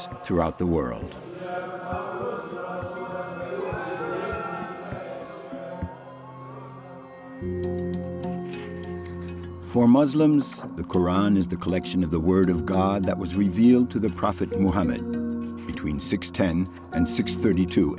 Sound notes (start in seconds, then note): 1.8 chanting in a foreign language; 4.0 gentle instrumental music